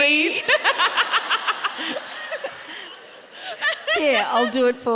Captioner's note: audience laughing